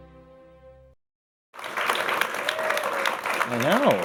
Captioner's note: applause